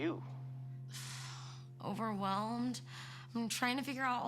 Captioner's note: exhales